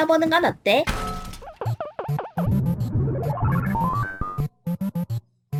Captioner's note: Donkey Kong sfx